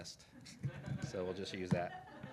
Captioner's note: laughing